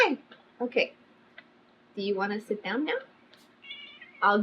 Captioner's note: cecilia meows